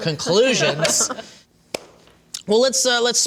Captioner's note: laughter